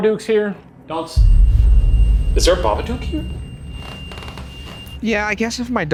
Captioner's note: REM-Pod beeps